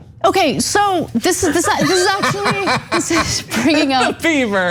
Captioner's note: laugh